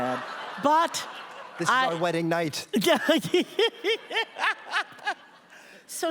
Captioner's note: laughter